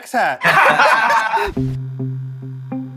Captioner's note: laughter